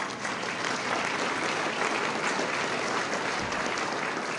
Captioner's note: applause